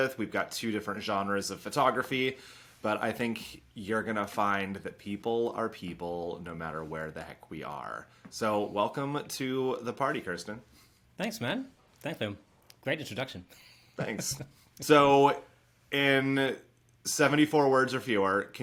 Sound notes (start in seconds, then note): 14.0 laughing